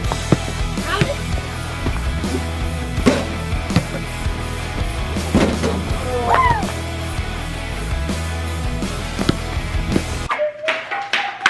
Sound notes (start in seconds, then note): 4.7 ball slamming; 10.5 mumbling singing; 10.5 shoes clattering